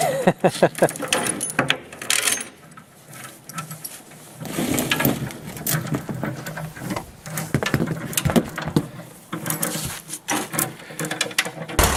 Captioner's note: crunch!; tractor running poorly; tractor struggling